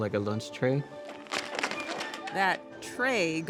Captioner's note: Crujido de hielo